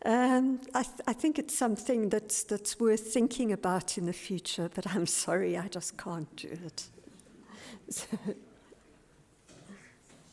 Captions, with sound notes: I think it's something that's worth thinking about in the future. But I'm sorry I just can't do it. (laughs)